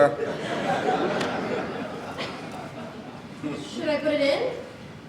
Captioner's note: audience laughs